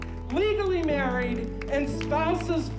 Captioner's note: attendees clapping